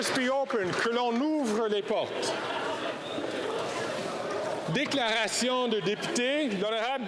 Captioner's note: applause